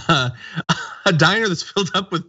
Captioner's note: laugh